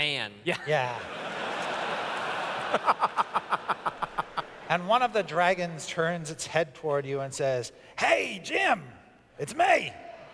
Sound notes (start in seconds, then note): 3.6 laughs